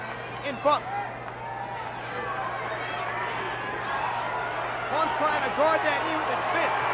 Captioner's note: applause